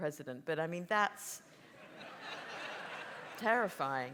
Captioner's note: audience laughs